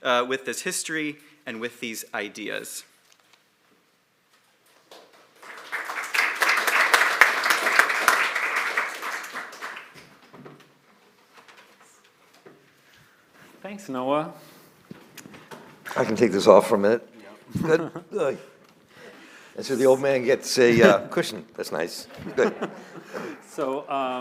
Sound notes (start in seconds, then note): 4.8 applause